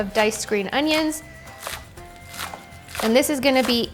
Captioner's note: onions dicing